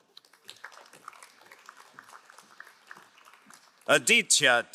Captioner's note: crowd applauding